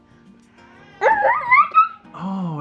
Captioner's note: high pitched excited cheering